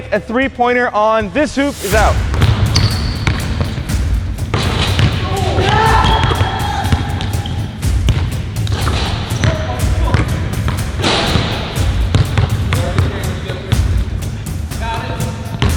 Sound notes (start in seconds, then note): 2.4 intense music; 6.1 all yelling